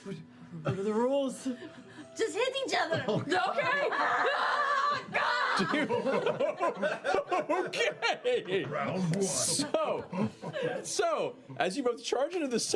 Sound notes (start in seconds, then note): 0.4 hesitantly; 4.6 battle screams; 8.0 laughing